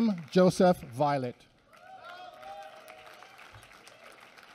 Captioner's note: applause